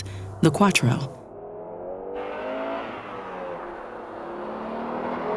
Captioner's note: engine revving